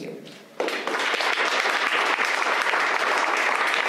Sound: applause

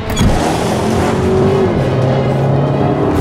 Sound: engine accelerates

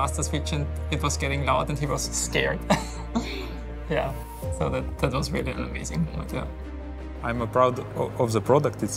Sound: laughs

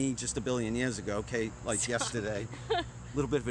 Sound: laughs

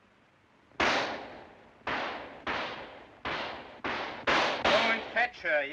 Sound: gunfire

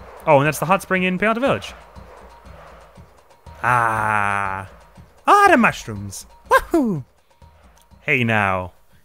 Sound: as Mario

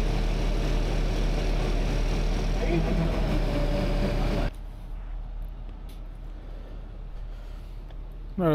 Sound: motor rumbling

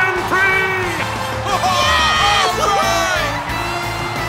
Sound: cheering

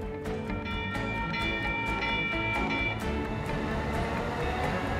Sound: bell Ringing

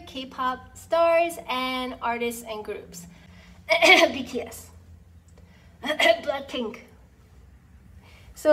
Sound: cough

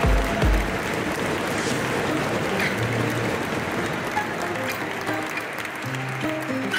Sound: audience stomps with their feet on the metal stands; applause; ♫ Midtempo guitar music ♫

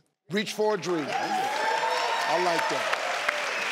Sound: cheering

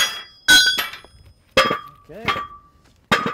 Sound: metal clanging

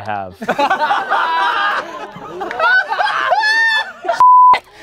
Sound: laughter

